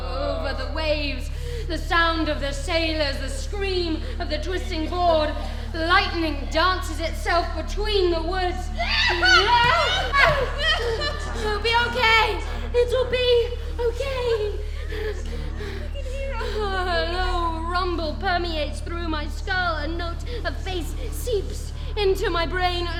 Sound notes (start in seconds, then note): 8.7 Amy exclaiming